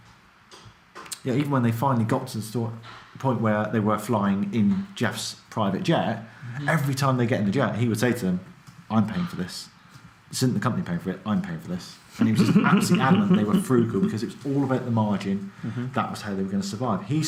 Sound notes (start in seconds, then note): 12.2 laughs